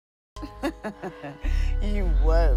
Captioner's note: Miss. Fang laughing